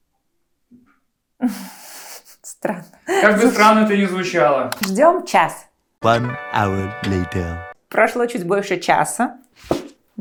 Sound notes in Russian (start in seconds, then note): 3.8 закадровый голос